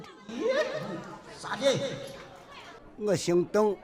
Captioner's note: speaking native language